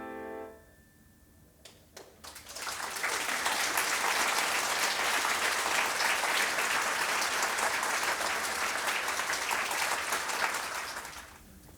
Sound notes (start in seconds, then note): 1.9 applause